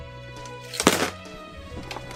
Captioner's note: clunk